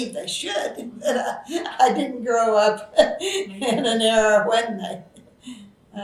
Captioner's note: laughs